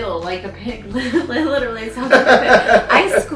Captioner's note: laughs